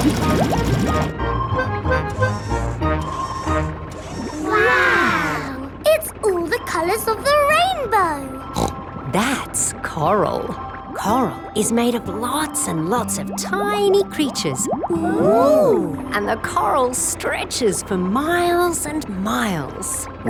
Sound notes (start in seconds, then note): 8.5 snorts